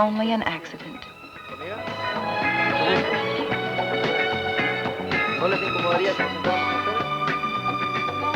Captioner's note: speaking Spanish